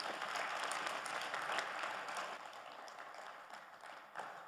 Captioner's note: audience applauding